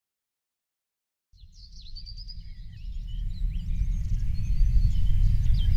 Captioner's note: birds chirping